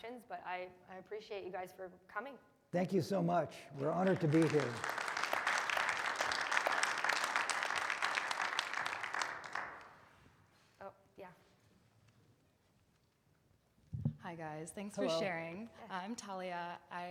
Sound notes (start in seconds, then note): 3.7 audience applauding